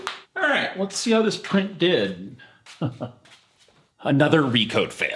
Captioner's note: laughing